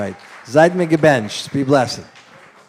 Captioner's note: non-english